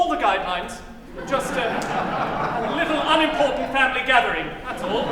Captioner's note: laughter